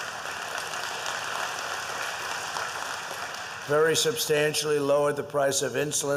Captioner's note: applause